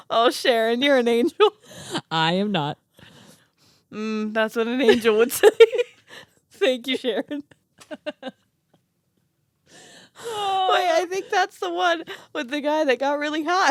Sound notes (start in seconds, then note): 7.3 laugh